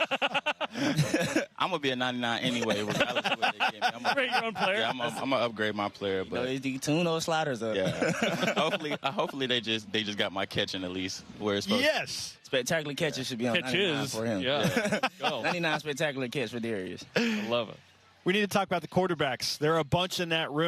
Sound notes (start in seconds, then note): 4.1 laughter